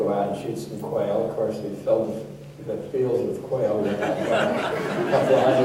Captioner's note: laughter